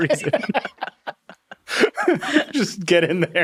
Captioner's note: all laughing